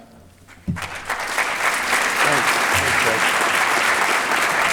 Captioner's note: applause